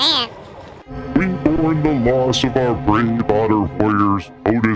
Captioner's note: solemnly